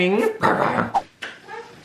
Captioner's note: growling